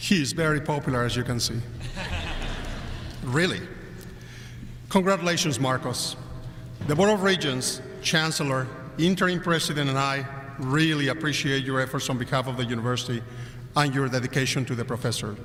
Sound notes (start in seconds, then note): 1.8 crowd laughing